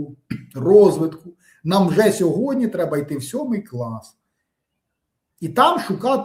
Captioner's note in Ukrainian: прочищення горла